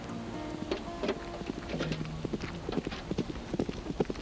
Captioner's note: hooves clopping